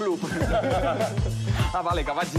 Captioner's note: laughs